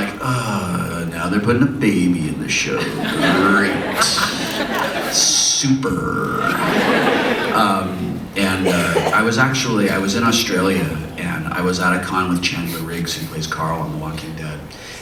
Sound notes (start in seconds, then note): 3.4 audience laughs; 6.2 more laughter